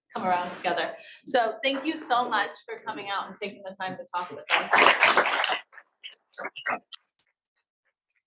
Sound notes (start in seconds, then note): 4.5 audience applauds